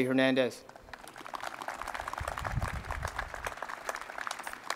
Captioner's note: crowd applauding